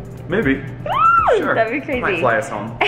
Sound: squeals

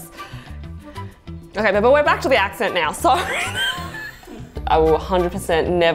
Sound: laughs

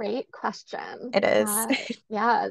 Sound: laughs

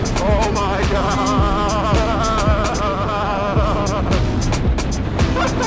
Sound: voice shaking

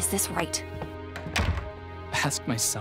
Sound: door shuts

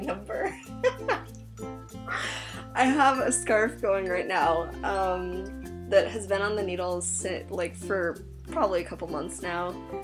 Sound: laughs

